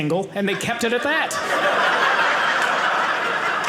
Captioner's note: audience laughing